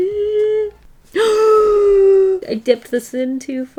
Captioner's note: gasps